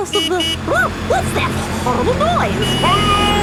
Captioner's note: honking